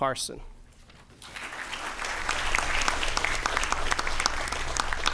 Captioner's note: applause